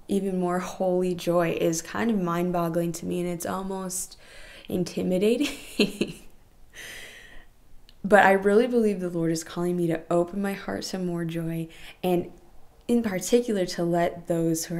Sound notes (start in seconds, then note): 5.2 laughing